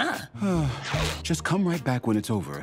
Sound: sighs

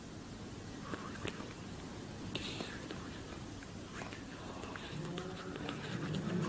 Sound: whispering almost inaudibly

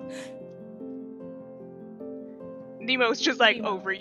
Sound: gasps, looks up

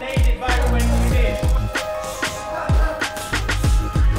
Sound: man yelling

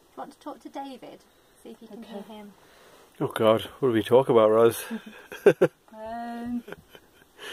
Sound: laughs

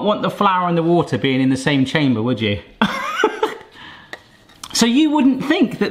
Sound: laughs

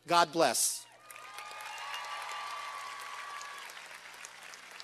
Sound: cheers and applause

